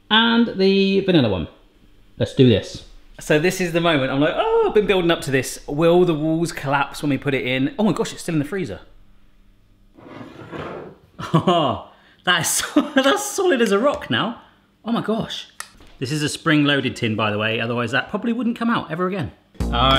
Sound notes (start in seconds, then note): 9.9 sliding